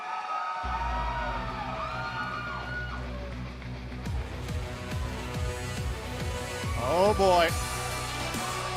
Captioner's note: cheers and applause